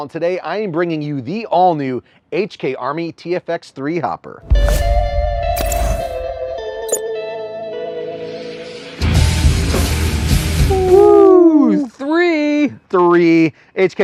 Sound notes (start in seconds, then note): 4.5 rock music; 10.6 howling